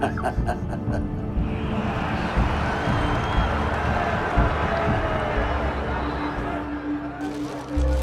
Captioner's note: sounds of cheering; sounds of photos being taken